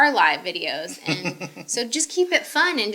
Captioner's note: laughing